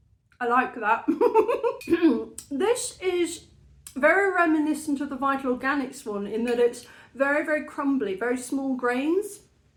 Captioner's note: laughing